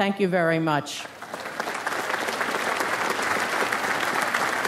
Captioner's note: audience applauds